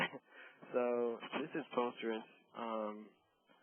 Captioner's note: laughter